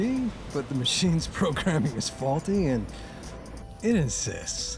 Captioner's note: chuckling